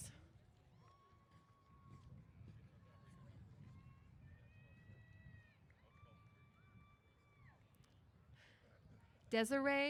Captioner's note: cheers